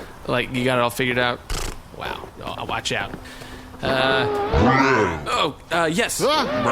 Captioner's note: raspberry noise; robotic noises